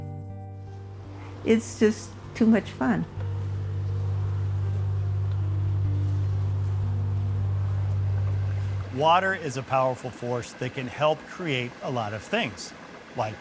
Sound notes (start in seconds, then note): 0.2 gentle music; 4.0 bees buzzing